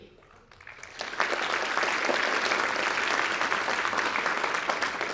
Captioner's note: audience applauding